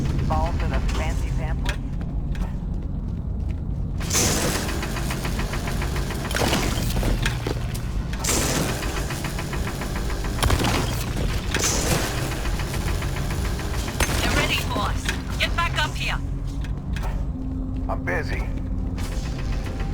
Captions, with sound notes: Fall for the fancy samplers? [GUNSHOTS] Get ready, boss. Get back up here. I'm busy.